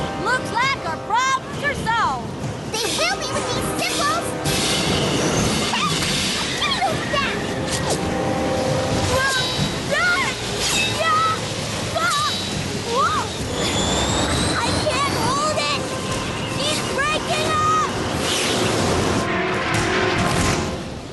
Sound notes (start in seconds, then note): 4.6 cymbals crashing; 18.0 whoosh!